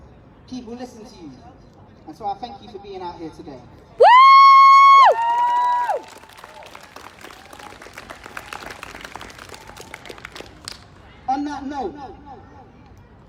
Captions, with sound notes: people listen to you, and so I thank you for being out here today. [Whooping] [Applause] On that note,